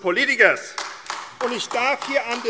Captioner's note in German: Beifall AfD